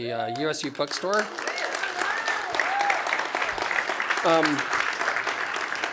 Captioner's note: applause